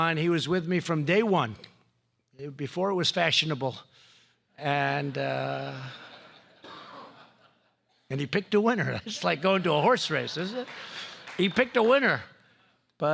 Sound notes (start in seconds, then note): 5.1 laughter